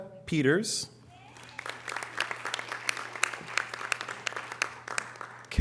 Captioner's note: audience applause